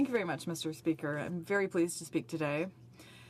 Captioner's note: speaking french